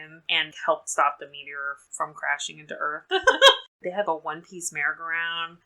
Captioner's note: laughs